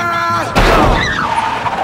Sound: crashing

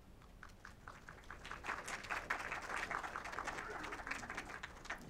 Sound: applause

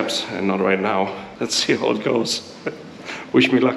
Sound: chuckles

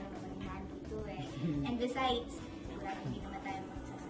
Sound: Rodel chuckles

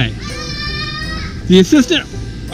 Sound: assistant shouting

